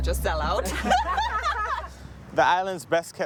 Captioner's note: laughter